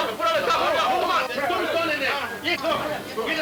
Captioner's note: men yelling simultaneously